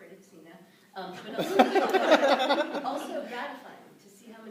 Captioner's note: laughter